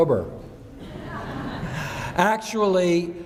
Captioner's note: laughing